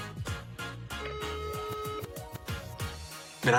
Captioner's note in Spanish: Tono de llamada